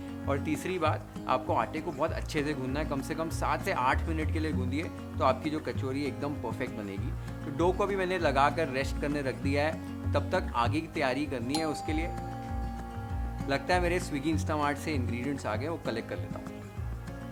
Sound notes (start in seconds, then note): 11.5 doorbell rings